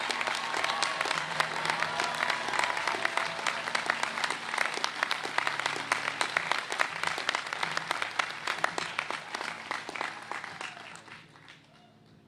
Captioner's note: cheers and applause